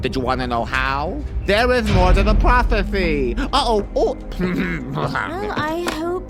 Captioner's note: snickers